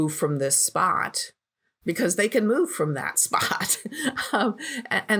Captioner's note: chuckles